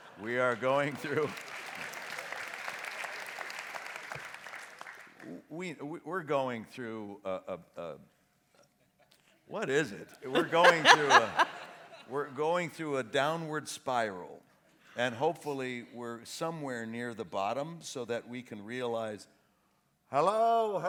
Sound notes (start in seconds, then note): 1.6 audience laughs; 10.3 laughs